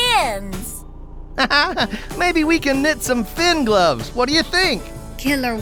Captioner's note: laughing